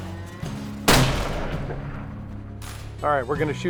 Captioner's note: gunshot